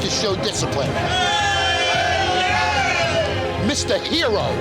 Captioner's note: shouting